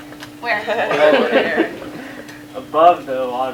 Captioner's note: laughter